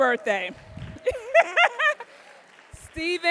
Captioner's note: laughing